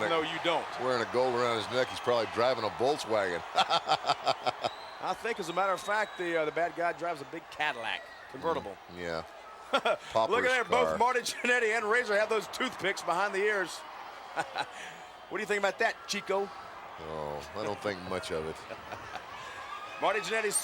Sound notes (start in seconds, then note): 3.4 laughs; 14.4 laughs